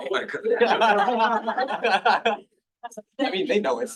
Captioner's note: laughter